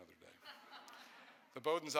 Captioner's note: audience chuckles